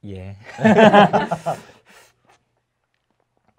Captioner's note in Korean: 웃음